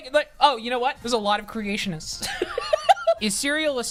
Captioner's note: laughs